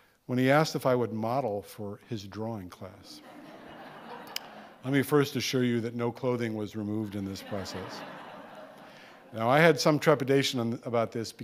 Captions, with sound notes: when he asked if I would model for his drawing class. (audience laughing) Let me first assure you that no clothing was removed in this process. (audience laughing) Now, I had some trepidation about this